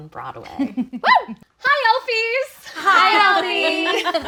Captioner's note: group laughing